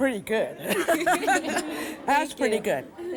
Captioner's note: laughing